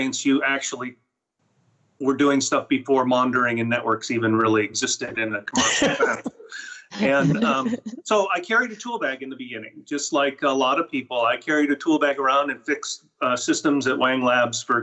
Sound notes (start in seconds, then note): 6.1 laughing